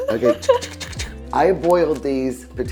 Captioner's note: laughing; imitates whisking